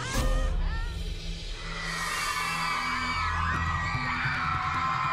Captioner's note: cheering